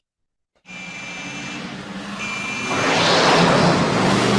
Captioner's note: car honking